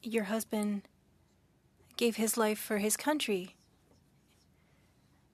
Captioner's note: speaking French